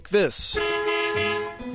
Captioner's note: honking